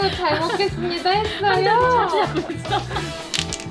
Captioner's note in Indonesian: tertawa